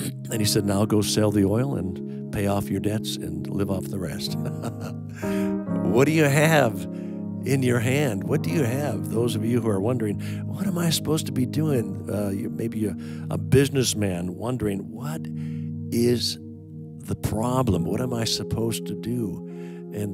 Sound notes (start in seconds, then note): 4.3 chuckling